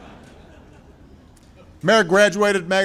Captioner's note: laughter